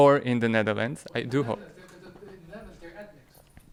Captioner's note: man speaking off microphone